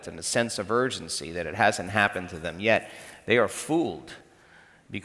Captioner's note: none